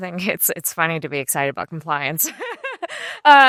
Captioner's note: laughter